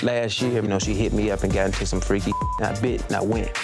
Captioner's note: beep